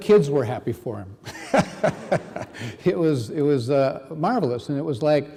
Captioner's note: reverend laughing